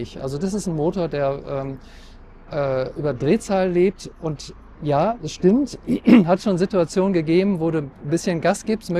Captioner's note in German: räuspern